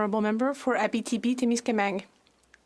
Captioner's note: speaking French